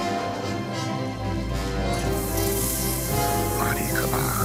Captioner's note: electricity buzz